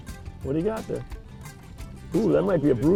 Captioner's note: voiceover